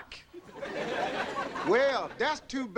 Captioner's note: audience laughing